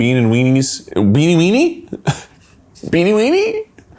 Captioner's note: laughs